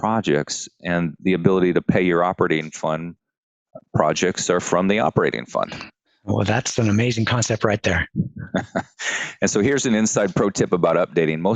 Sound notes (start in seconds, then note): 8.3 light laughter